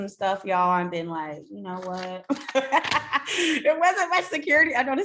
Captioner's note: laughs